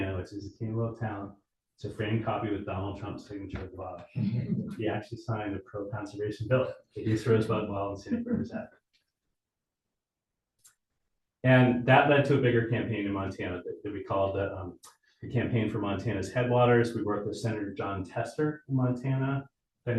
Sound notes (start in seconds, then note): 4.2 audience chuckling